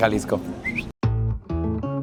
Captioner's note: ice-creamy whistle